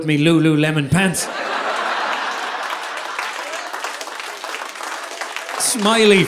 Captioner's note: audience laughing; audience applauding